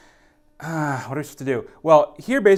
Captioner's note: groans